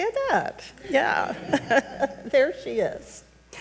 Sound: chuckles

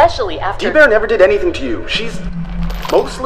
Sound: chains rattle

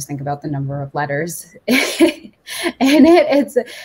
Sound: chuckles

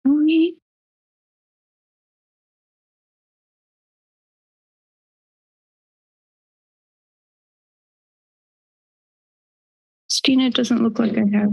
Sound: pause

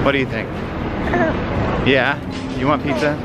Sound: baby noise

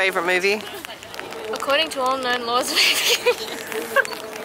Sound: laughs

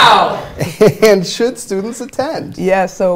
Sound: laughing

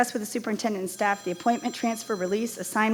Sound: phone ringing

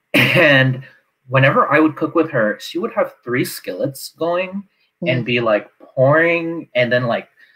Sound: laughs

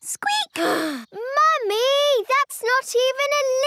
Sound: sighs

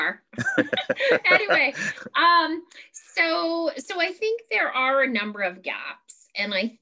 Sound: laughter

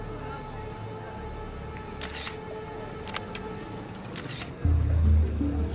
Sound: camera clicking

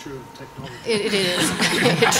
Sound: laughter

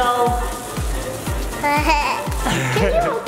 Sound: giggles

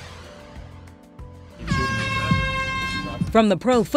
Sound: horn blares

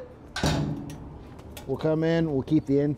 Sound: door thuds

